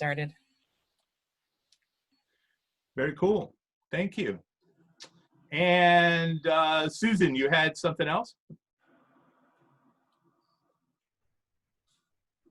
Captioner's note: silence